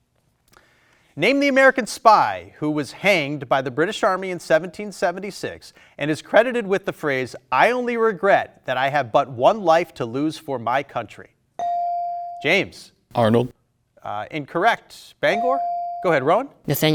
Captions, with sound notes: Name the American spy who was hanged by the British Army in 1776 and is credited with the phrase, "I only regret that I have but one life to lose for my country." (buzzer dings) James. - Arnold. - Incorrect. Bangor. (buzzer dings) Go ahead, Rowan.